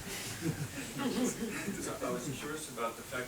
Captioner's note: audience laughing